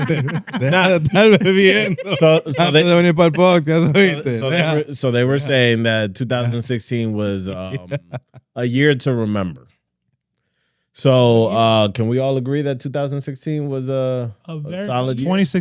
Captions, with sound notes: (Speaking In Foreign Language) So they were saying that 2016 was a year to remember. So can we all agree that 2016 was a solid year?